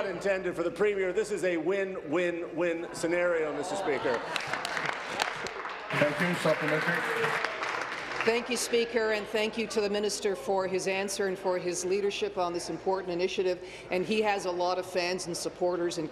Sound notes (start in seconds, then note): 9.4 applause